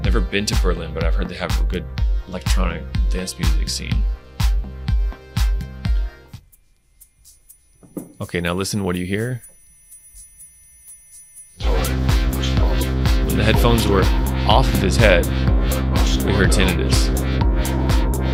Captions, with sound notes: Never been to Berlin, but I've heard they have a good electronic dance music scene. Okay, now listen, what do you hear? (ears ringing) (upbeat music) When the headphones were off of his head we heard tinnitus,